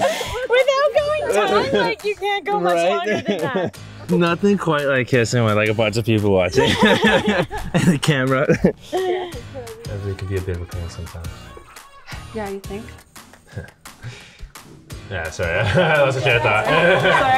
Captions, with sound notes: Without going tongue, like you can't go much longer than that. Nothing quite like kissing with like a bunch of people watching.. [ laughing ] and the camera. Everly can be a bit of a pain sometimes. Yeah, you think. Yeah, sorry I lost my train of thought.